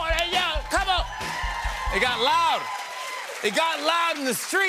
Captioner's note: cheers and applause